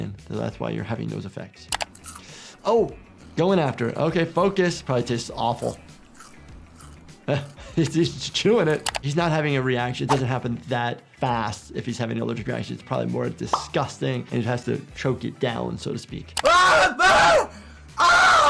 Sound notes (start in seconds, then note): 5.4 scorpion crunching